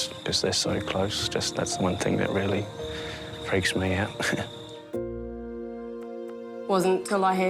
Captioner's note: chuckles